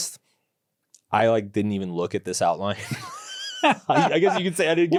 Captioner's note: laughs